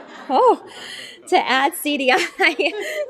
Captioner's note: laughter; laughter